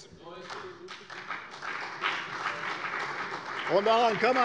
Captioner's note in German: Beifall bei der CDU und dem BÜNDNIS 90/DIE GRÜNEN